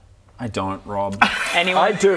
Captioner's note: honest laughter